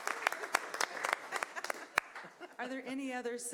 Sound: cheering and applause

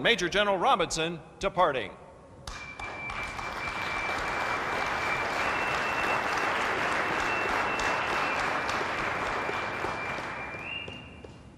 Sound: applause

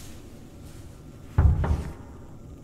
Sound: loud thudding

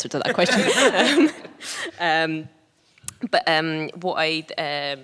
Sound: laughing

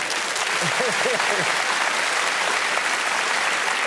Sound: cheers and applause; audience laughing

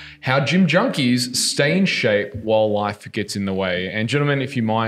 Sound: none

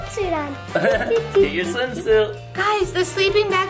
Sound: Barbie Malibu laughing

